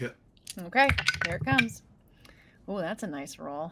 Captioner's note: dice rolling